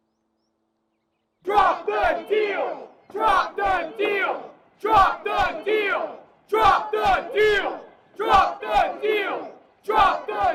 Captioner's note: protesters Chanting